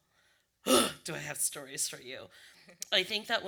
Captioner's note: exhale